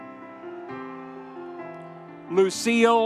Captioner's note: audience cheering